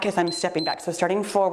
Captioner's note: timer beeps